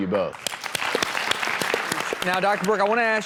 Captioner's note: applause